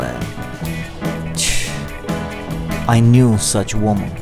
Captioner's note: sobbing